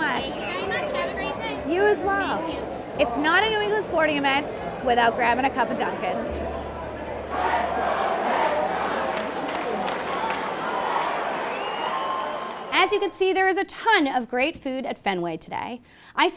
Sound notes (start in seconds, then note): 7.6 crowd; 9.3 crowd cheers